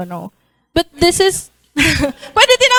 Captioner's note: laughter